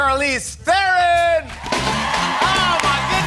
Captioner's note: cheers and applause